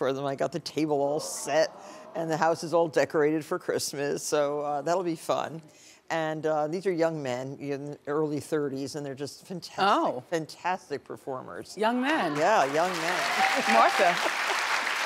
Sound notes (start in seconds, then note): 12.3 audience clapping